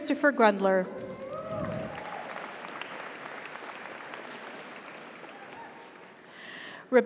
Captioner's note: audience cheers; audience applauds